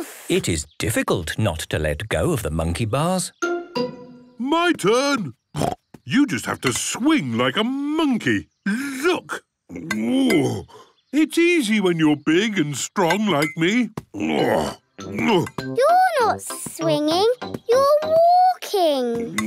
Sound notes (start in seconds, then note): 5.6 snorts; 9.7 grunts; 14.1 grunts